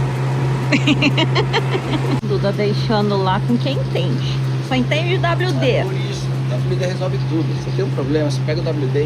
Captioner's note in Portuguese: risadas